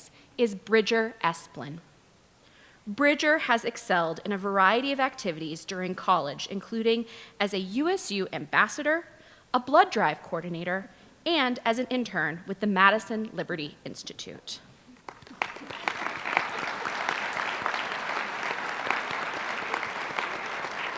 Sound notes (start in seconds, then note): 15.0 applause